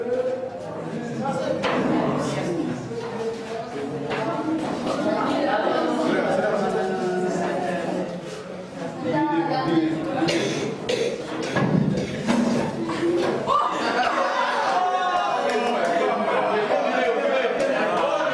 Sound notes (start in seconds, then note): 14.2 laughing